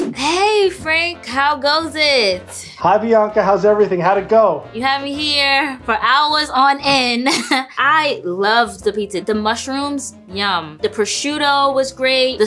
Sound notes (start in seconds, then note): 6.8 laughs